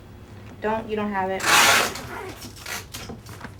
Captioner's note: rip of tape